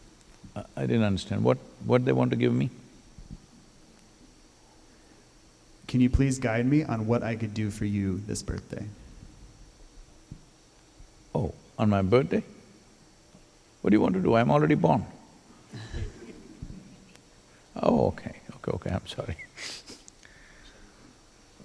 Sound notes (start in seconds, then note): 15.7 laughter